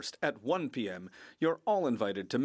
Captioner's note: speaking French